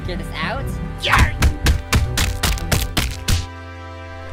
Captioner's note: banging